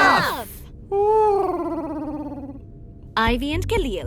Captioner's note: Huti hoots